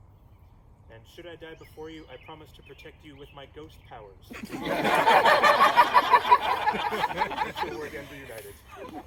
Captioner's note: uproarious laughter